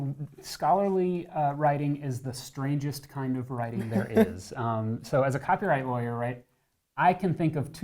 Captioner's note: laughs